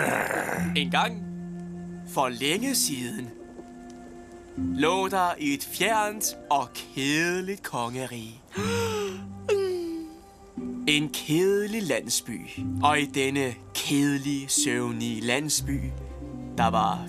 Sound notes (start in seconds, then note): 8.5 yawning